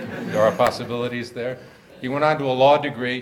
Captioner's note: audience laughs